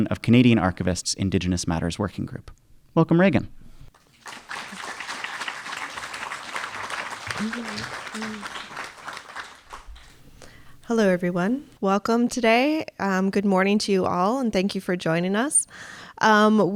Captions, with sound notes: of Canadian Archivists Indigenous Matters working group. Welcome, Reagan. (audience applauding) - Hello everyone, welcome today. Good morning to you all and thank you for joining us.